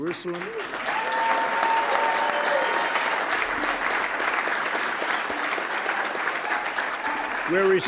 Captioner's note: applause